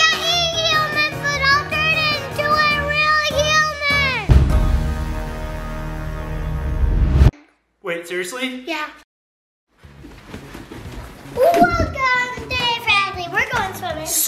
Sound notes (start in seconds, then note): 7.0 sign whoosh